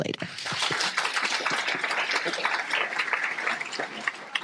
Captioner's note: applause